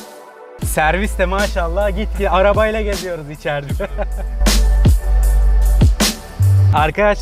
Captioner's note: laughs